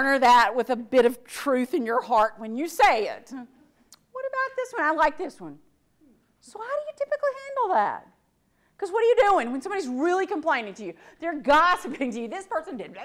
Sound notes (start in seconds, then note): none